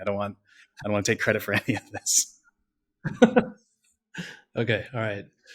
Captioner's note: laughs